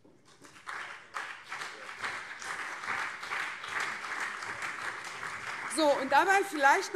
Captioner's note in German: Beifall CDU und SPD